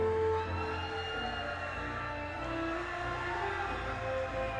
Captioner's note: audience cheers